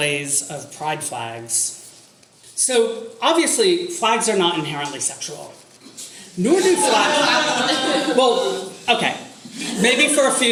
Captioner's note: audience laughter